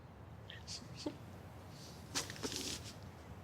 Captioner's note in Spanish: Risa contenida